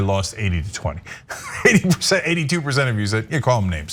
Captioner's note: laugh